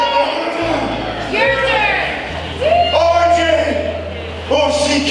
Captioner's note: audience cheering